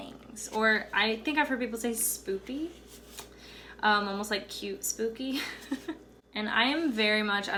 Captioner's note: chuckles